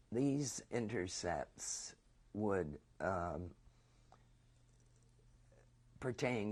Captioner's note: pauses for 3 seconds